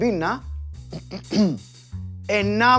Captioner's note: coughs